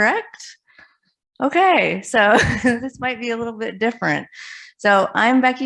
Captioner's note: laughs